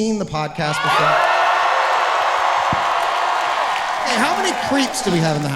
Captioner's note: audience cheering loudly